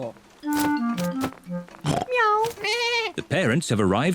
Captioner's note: all makes animal sounds